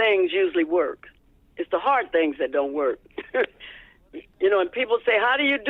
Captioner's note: laughter